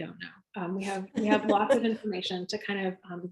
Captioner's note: laughs